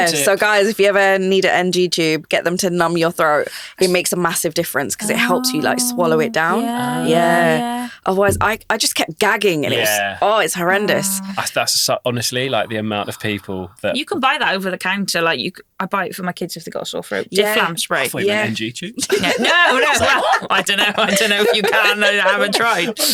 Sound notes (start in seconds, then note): 19.0 all laughing